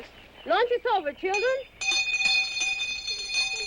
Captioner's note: bell rings